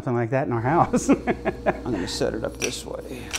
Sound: laughs

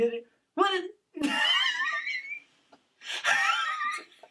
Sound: laughs

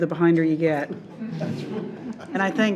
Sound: people laughing

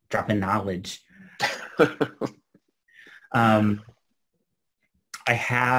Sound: laughs

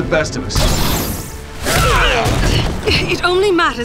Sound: fighting grunts and impacts

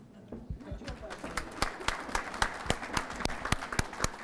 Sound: applause

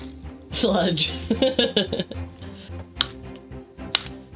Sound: laughs

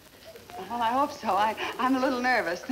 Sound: chuckling

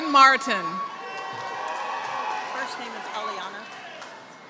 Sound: applause

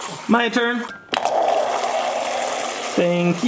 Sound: water pouring

